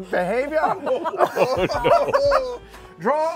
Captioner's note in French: rires